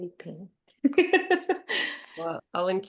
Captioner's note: laughs